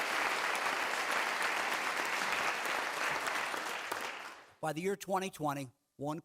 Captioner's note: clapping